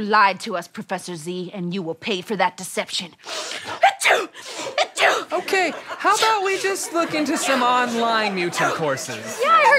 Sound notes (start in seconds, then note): 4.7 sneezes